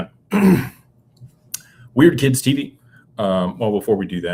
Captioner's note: clears throat